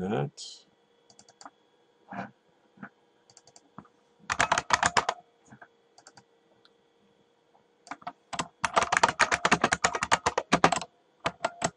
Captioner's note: typing